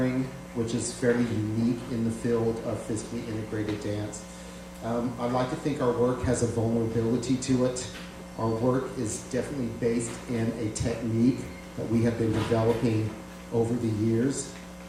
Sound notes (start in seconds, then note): none